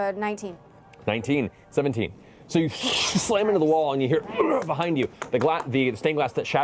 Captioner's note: groans